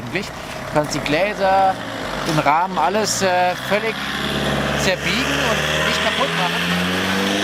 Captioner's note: very loud car noise